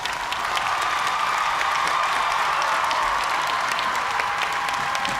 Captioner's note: cheers and applause